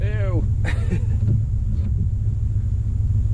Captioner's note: laughs a little to himself